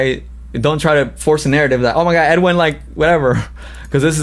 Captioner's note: laughs